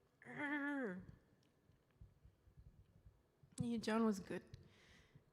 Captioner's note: groans